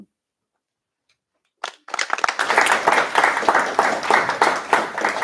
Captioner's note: applause